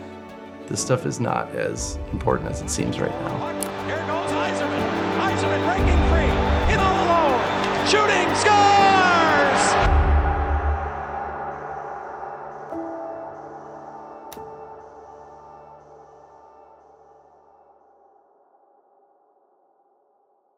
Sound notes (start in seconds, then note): 4.4 crowd clamoring; 13.0 gentle music